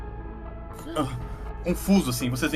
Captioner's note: gemido